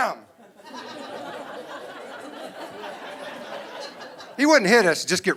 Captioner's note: audience laughing